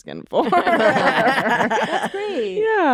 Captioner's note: laughter